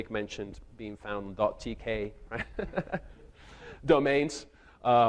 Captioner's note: chuckles